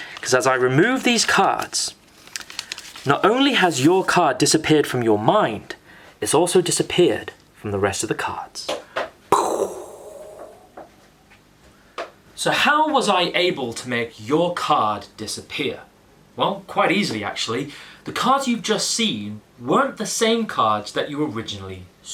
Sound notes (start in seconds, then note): 10.8 mind-blowing sound effect